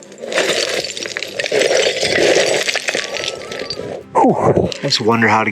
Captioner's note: rustling and breathing throughout